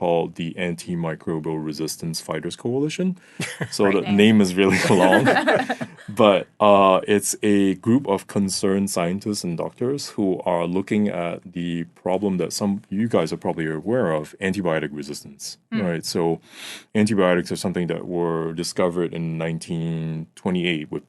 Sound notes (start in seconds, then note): 4.5 all laughing